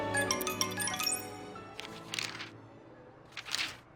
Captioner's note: none